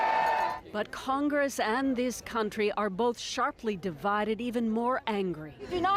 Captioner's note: cheers and Applause